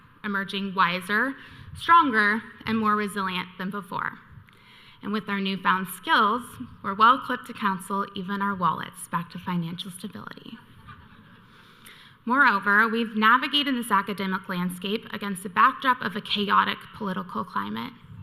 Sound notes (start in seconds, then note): 10.8 audience laughing